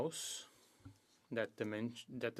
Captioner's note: speaking French